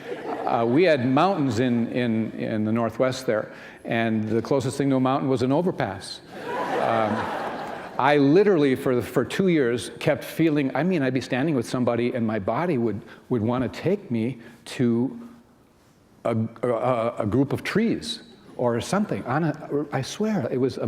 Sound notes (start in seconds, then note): 6.4 laughter